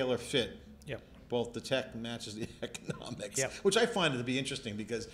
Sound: laughing

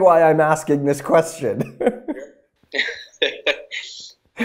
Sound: laughing

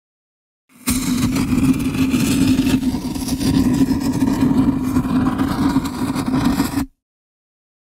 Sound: lit fuse sound effect

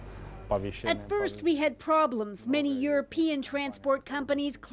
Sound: speaking alternate language

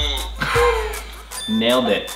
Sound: laughs

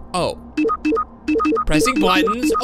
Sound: electronic beeping

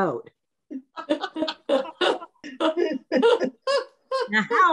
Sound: all laughing

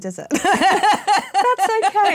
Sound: laughs

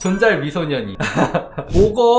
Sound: laughing

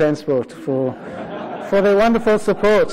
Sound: laughter

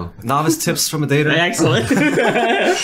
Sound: laughing

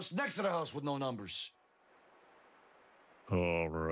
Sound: Homer thinks in silence

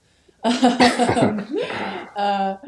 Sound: all laughing

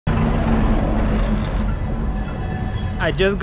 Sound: bus engine rumbling

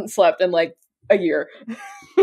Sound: laughs

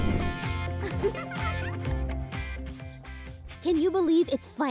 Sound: Makayla giggling

